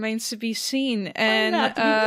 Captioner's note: chuckles